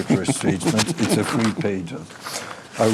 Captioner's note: laughs